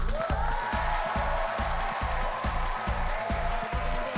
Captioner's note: cheers and applause